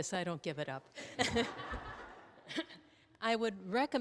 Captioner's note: attendees laughing